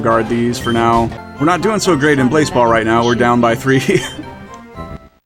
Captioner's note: laughs